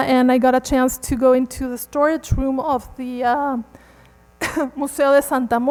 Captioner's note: coughs